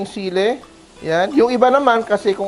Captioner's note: sizzle